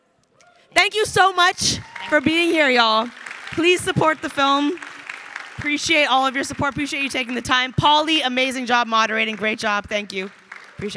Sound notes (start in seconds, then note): 2.3 crowd applauding